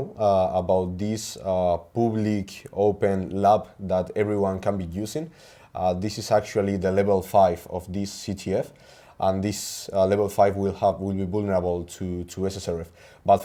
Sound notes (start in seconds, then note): none